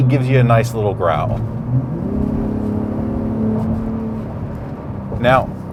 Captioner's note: car engine revving